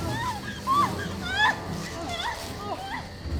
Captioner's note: crying